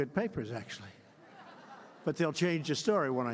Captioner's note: laughter